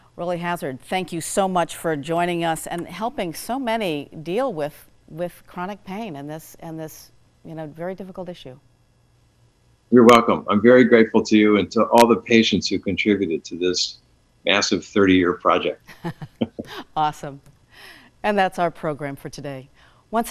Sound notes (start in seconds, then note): 15.9 both chuckle